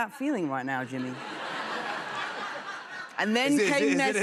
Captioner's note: laughter